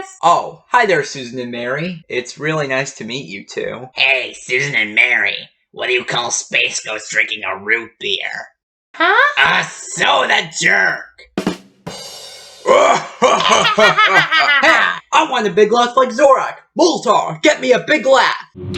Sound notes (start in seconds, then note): 12.6 Zorak and Moltar laugh